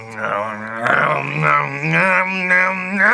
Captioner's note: loud disapproving eating sounds; loud disapproving sounds intensify exponentially